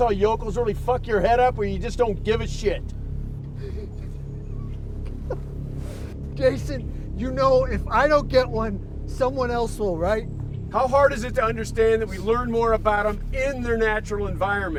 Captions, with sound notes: already fuck your head up where you just don't give a shit? (whimpers) (tense music) - Jason, you know if I don't get one, someone else will, right? - How hard is it to understand that we learn more about 'em in their natural environment?